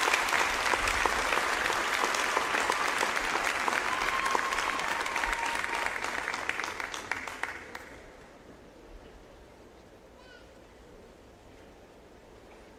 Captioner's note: applause